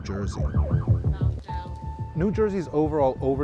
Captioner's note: upbeat music; sirens blaring